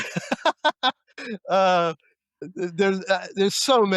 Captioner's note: laughter